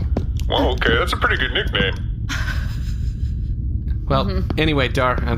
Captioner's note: laughs